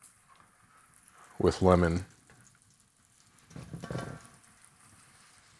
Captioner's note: breast meat sizzling